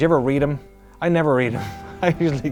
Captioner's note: chuckles